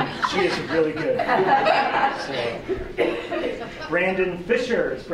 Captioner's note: laughter